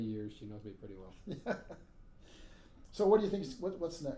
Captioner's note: laughing